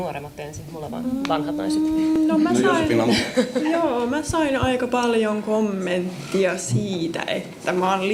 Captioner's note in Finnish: naurua